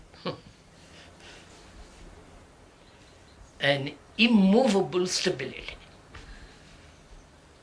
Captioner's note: laughs